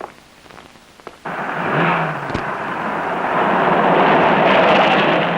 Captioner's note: engine rumbles